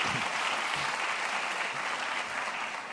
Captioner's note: applause